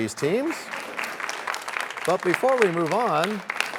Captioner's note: applause